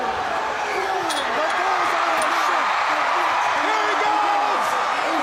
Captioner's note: speaks faintly